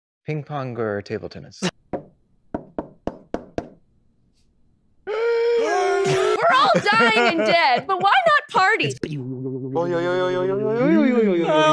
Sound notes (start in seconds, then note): 2.5 knocking; 5.0 old people groaning